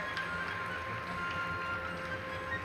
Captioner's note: applause